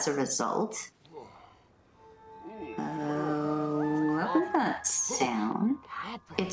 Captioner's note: creepy sound and Angel making pained noises